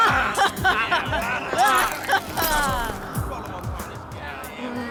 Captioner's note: kids laughing